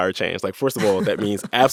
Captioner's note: laughter